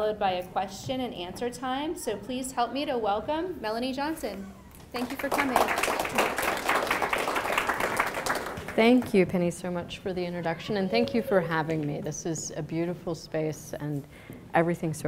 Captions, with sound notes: by a question and answer time, so please help me to welcome Melanie Johnson. Thank you for coming. (audience applauds) - Thank you Penny so much for the introduction, and thank you for having me. This is a beautiful space and everything so far